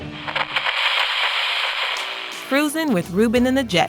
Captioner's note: radio crackles; upbeat music plays